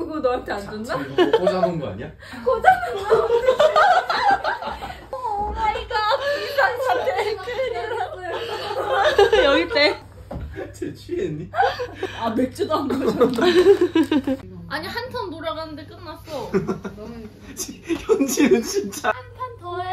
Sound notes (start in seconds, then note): 3.3 laughing